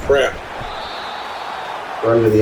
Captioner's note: crowd Noises